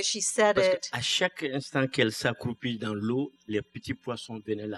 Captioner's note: speaking french